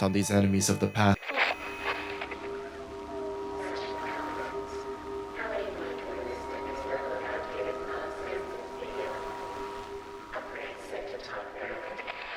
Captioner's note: static starts and distorted speech plays